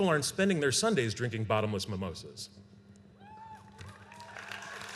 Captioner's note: applause